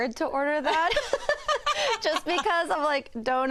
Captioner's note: laughter